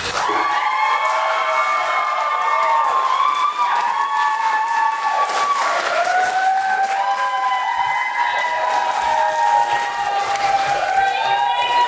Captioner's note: audience applauses